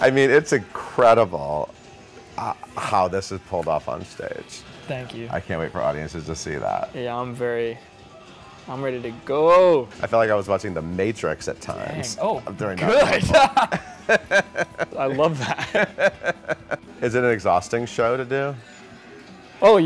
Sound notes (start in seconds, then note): 12.8 laughing; 12.8 laughs